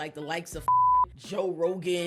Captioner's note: beep